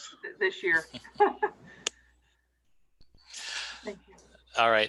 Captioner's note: laughing